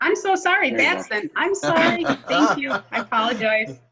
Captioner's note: board members laugh